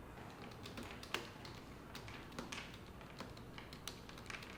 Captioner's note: keyboard clacking